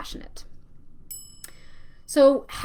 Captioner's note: bell rings